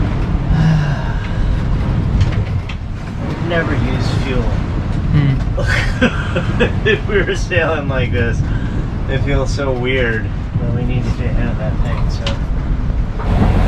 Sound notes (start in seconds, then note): 0.4 sighs; 5.2 laughing